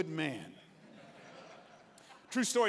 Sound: congregants laughing

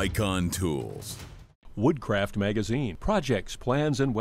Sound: voiceover

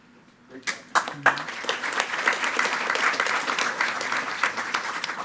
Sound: attendees clapping

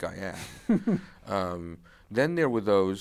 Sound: chuckles

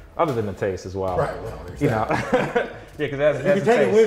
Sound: laughs

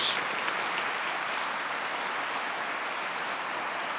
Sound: audience clapping

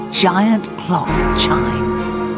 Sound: Chimes of Big Ben

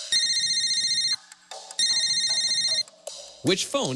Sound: phone rings brightly

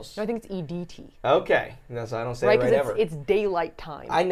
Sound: none

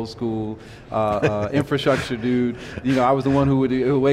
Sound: laughing

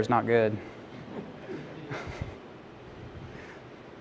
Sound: laughing

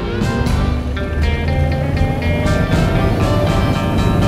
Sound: boat roaring; uptempo jazz music

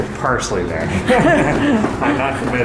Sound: both laugh

